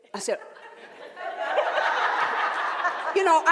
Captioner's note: laughing